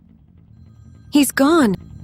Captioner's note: phone rings in background